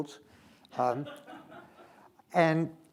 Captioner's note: attendees laughing